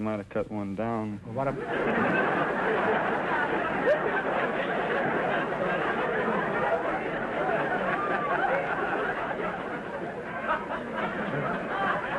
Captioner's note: audience laughter